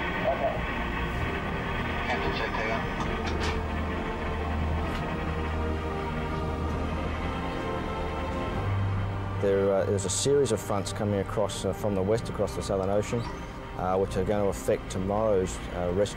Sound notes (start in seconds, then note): 2.0 distorted radio communication; 3.8 brooding music continues